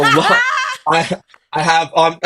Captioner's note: laughing